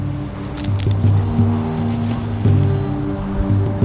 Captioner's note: falling sand